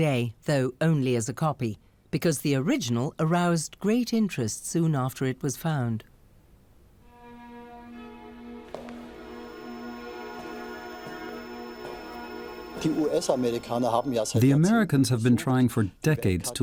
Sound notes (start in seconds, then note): 8.6 steps on wooden floor